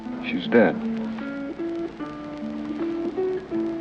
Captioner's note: none